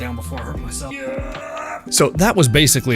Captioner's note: manly exertion noises